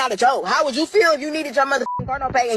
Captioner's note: beep